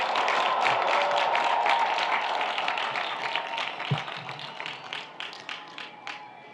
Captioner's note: audience applauds; audience cheers